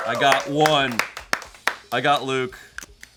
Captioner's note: crew cheering and clapping; upbeat music